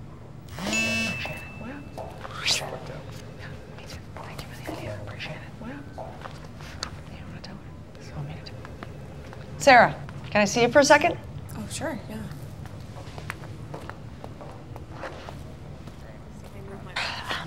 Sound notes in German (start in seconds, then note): 0.4 Telefon vibriert; 6.3 flüstern weiter